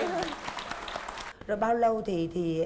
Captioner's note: applause